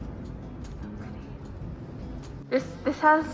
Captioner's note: whispering